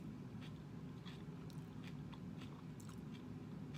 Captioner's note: chewing